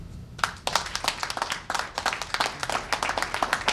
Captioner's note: applause